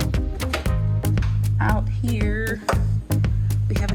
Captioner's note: door opening